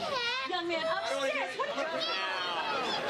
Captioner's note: overlapping whining